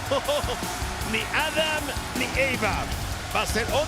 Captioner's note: laugh